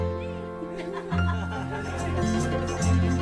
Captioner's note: laughs